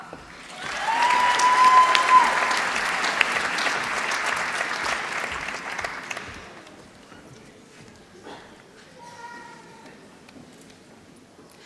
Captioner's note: applause